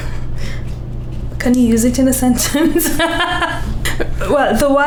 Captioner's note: laughs